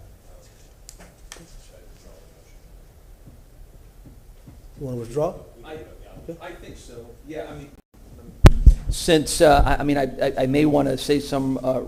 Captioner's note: off microphone